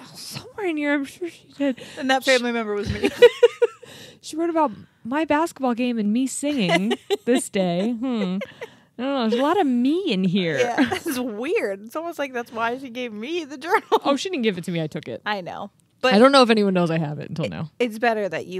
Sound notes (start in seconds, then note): 2.9 chuckling; 6.6 chuckles